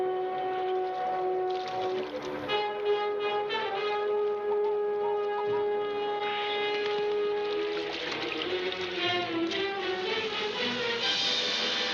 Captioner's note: water splashing